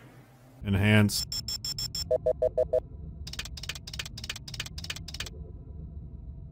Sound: clicking and beeping

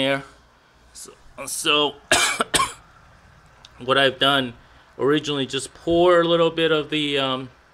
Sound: coughing from breathing in vinegar vapors

